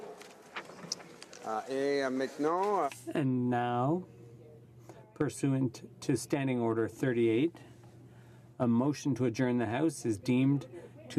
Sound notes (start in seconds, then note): 4.7 speaking French